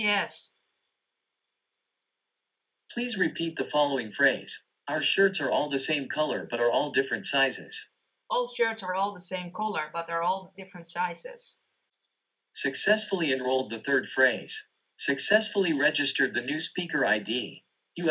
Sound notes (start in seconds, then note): 2.9 on phone; 12.7 on phone